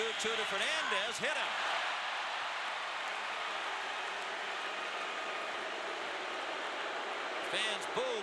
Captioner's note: booing